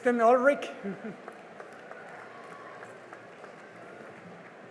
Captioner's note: cheering and applause